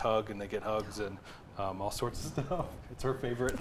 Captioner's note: laughs